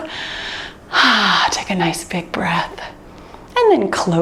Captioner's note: sighs